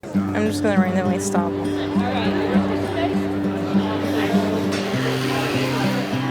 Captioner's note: people sounds